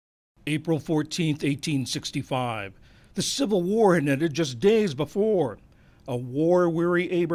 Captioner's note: voice-over